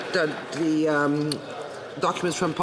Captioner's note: some Applause